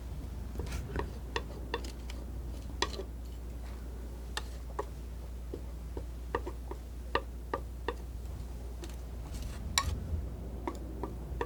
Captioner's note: scratching